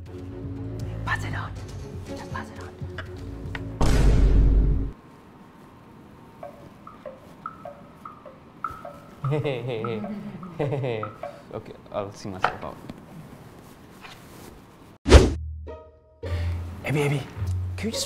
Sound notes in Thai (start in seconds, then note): 4.2 ดนตรีหดหู่; 9.2 หัวเราะ